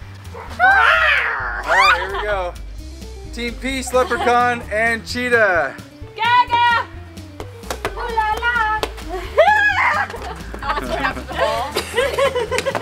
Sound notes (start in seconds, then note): 0.2 mom growling; 9.6 yelling and laughing